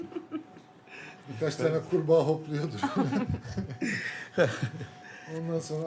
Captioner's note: laughter